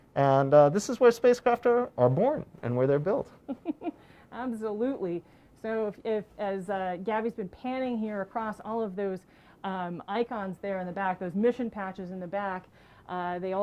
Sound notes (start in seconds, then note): 3.5 laughs